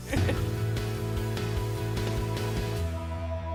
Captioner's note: laughter